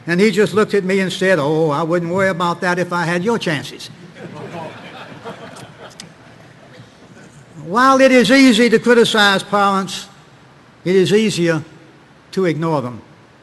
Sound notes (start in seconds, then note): 4.0 audience laughing